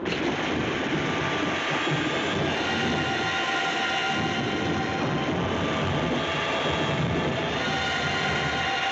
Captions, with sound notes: That was close. [Thunder Rumbling]